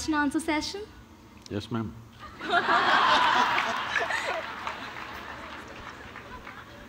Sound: laughter

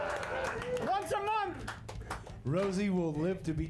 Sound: applause

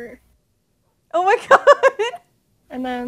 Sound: laughing

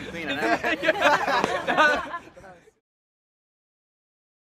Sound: laughing

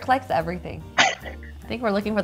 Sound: giggles

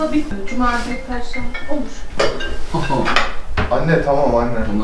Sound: telephone rings; on the phone

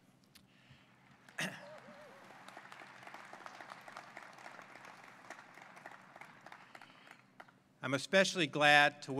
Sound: applause

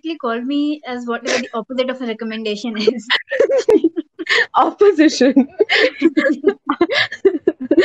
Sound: both laugh

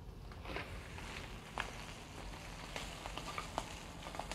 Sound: sizzling

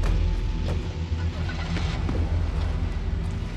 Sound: car engine starting

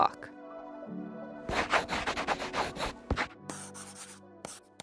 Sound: pencil scratching

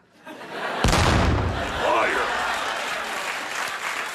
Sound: audience laughs

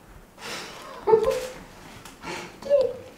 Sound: laughs

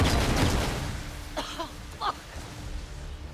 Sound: cough

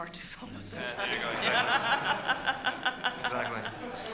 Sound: audience laughs

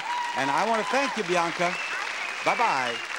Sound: cheering happily

